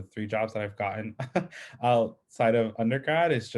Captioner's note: chuckles